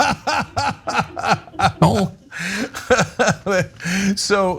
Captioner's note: laugh